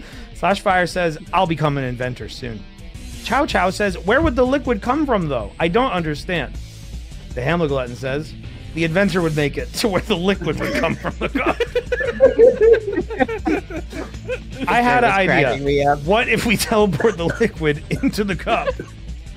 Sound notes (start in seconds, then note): 11.9 laughter